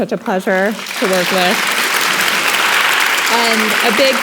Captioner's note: audience clapping